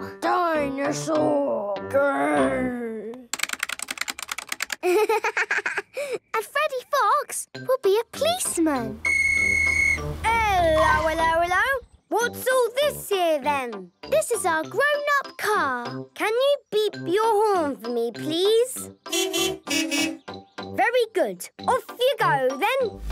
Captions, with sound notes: - Dino-saur! Grrrr! - (keyboard clicking) - Ha, ha, ha. And Freddy Fox will be a policeman! - (whistle blowing) - Hello, hello, hello! What's all this here, then? - This is our grown-up car! - Can you beep your horn for me, please? - Beep, beep! Boop, boop! - Very good. Off you go, then!